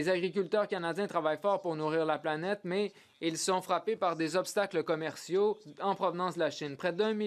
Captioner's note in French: voix de l'interprète